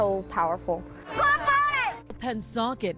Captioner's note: crowd yelling